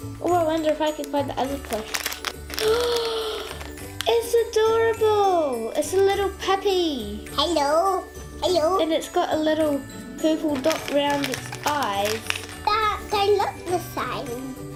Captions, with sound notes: Oh. I wonder if I can find the other plush. [ gasps ] It's adorable! It's a little puppy. Hello. And it's got a little purple dot around it's eyes. They look the same.